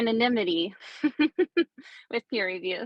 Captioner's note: chuckling